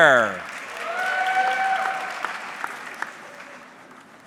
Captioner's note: audience clapping